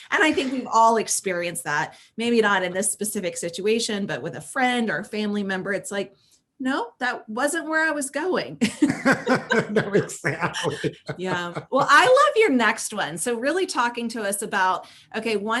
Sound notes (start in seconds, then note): 8.7 all laugh